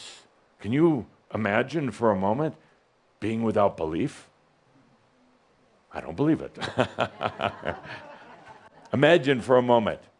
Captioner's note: chuckles